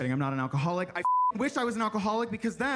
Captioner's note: beep